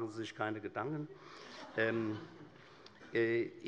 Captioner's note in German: Allgemeine Heiterkeit